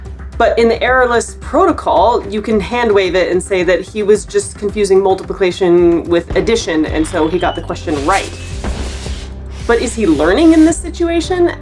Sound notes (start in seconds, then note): 7.8 firework sounds; 8.6 background music